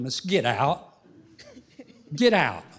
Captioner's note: laughter